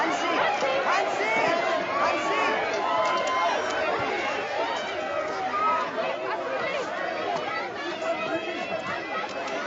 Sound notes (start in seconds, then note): 3.0 cheering